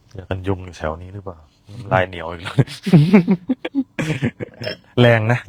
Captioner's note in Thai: เสียงหัวเราะ